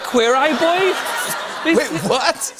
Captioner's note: laughter